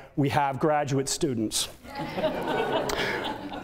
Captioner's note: audience laughter